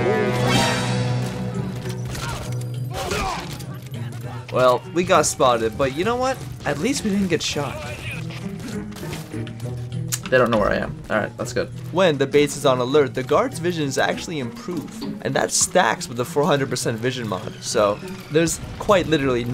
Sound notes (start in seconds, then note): none